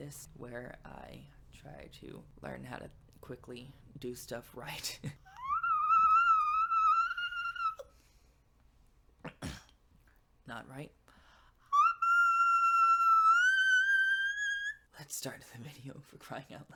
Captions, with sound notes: where I try to quickly learn how to do stuff right (laughs). (whistle voice--clears throat) Not right. (whistle voice again) Let's start the video (laughs) for crying out loud.